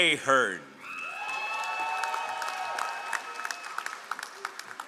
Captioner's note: all applauding